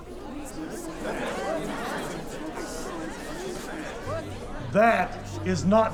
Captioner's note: confused chattering